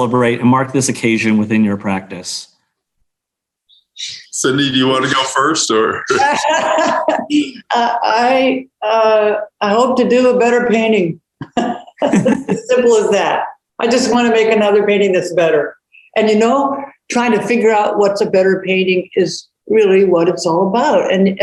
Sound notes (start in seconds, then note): 6.0 laughing; 11.4 laughing